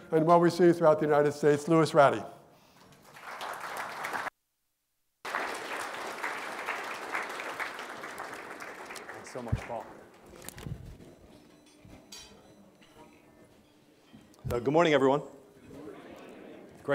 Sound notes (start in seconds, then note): 3.4 audience applauding